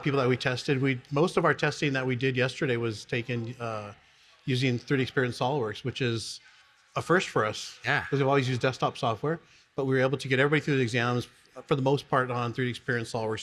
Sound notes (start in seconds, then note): none